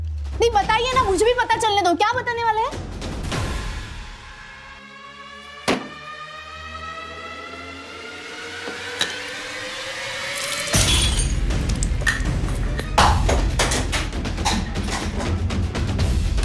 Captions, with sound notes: No, please tell me! What are you going to tell the cops? [thumping] [clanking] [glass shattering] [clanking]